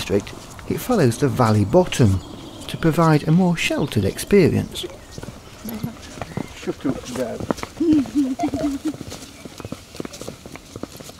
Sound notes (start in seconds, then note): 5.4 chattering and laughing